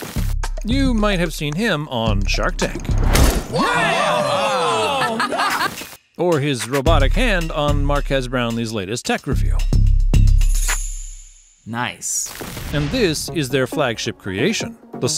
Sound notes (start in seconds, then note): 3.4 people cheering